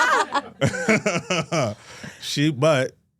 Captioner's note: Michael laughing